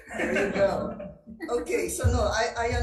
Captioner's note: attendees chuckling